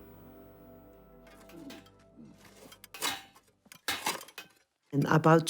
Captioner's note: hammers clanking